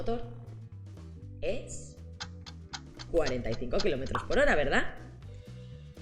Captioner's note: clock ticking sound